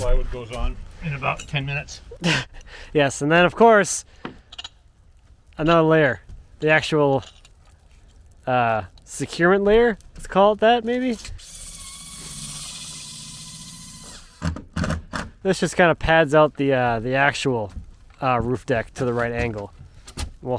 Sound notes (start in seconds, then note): 2.1 chuckles; 11.2 drill whirring; 14.4 drill grinding